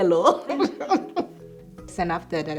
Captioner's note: laughing